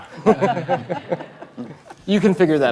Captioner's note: laughter